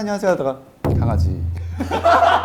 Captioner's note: cool tone